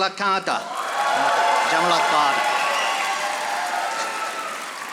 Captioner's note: audience applauding